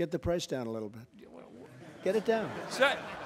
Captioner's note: laughter